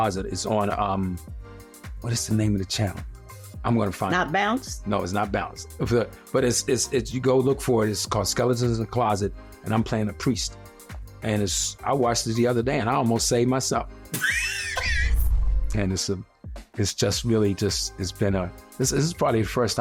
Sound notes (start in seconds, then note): 14.2 laughing